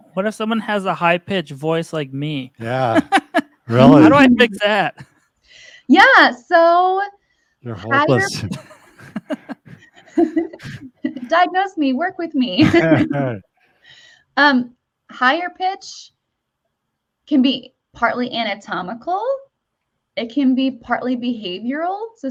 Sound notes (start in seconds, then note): 2.5 chuckles; 7.7 chuckle; 12.6 chuckles